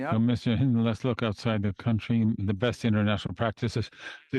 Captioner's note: speaking in French